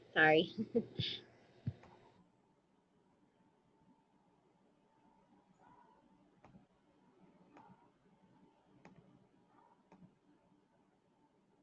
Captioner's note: laughs